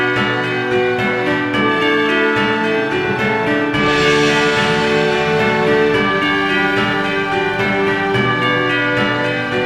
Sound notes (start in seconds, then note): 2.8 upbeat music; 3.7 bells ringing